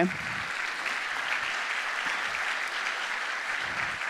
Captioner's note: audience applauding